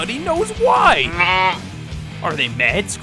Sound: bleating

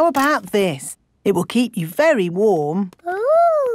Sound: none

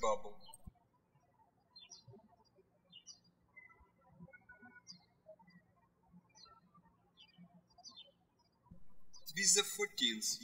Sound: birds chirping

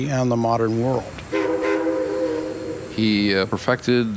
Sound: steam locomotive sounds

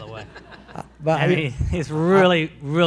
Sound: audience laughs

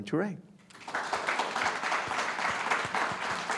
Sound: applause

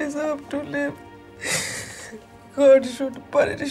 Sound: crying

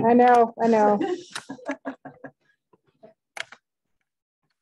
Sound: laughter

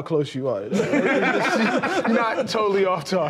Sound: laughter

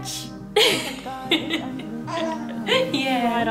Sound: laughs

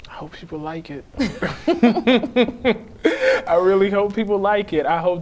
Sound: both laughing

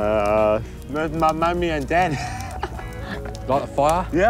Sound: laughs

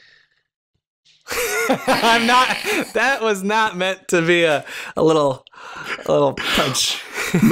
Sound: laughter

